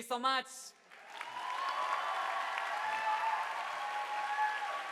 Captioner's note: audience applauding